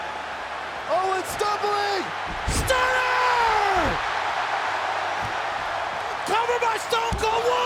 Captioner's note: crowd cheering